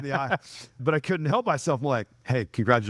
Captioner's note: laughing